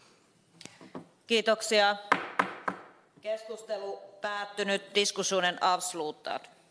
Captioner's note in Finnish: nuijan kopautus